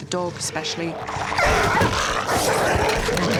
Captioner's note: both snarling